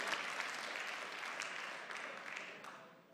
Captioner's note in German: Beifall